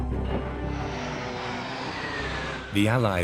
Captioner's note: planes whir